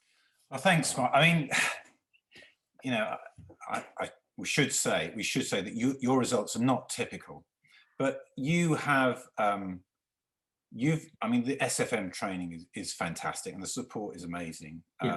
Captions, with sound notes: - Well, thanks man, I mean (sighs), we should say that your results are not typical, but you've, I mean the SFM training is fantastic and the support is amazing.